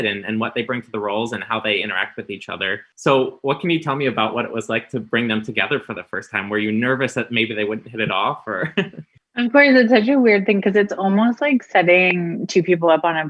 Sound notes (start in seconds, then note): 8.6 chuckles